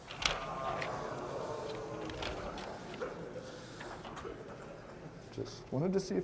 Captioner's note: groaning